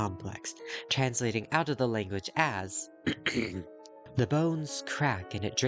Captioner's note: transsexual throat clearing